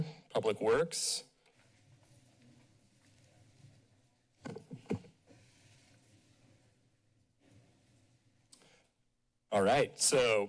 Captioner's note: silence